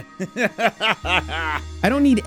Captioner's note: laughs mockingly